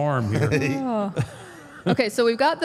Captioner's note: AJ laughs